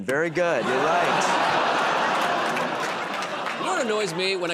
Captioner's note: laughter, groaning